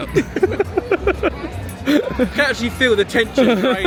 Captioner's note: laughing